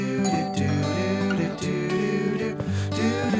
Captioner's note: doorbell rings